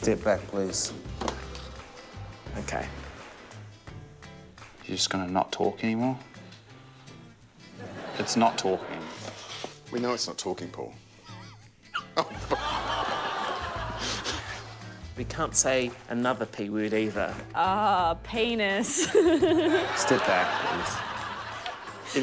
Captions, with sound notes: - Step back, please. - OK. - You're just gonna not talk any more? (LAUGHTER) It's not talking. We know it's not talking, Paul. (LAUGHS) Oh, for... (LAUGHTER, GROANS) - We can't say another 'P' word either. - Oh, penis. (LAUGHS) - Step back, please. (LAUGHTER)